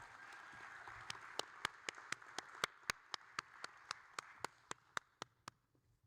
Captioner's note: audience cheering; applauding